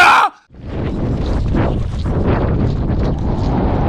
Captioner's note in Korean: 호다닥 호다닥!!!